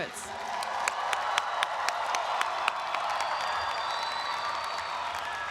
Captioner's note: audience applauds and cheers